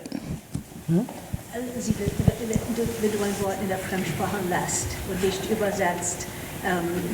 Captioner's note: panelists speaking in foreign language